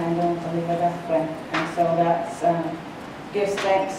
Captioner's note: speaking in foreign language